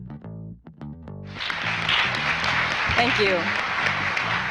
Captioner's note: enchanted guitar music; congregation clapping